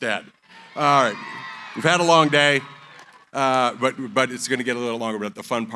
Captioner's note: cheering